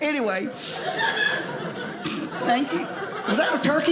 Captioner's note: audience laughing